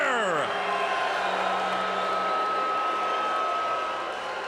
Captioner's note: crowd cheering